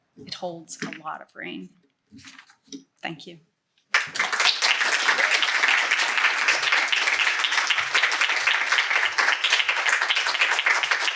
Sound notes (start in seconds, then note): 3.9 applause